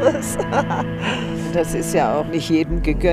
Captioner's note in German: Lachen